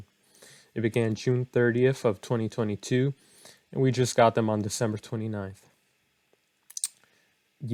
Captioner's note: clicks teeth